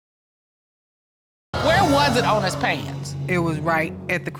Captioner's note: audience exclaiming